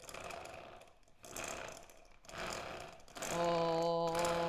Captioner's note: quiet whirring